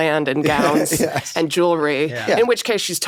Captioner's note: laughs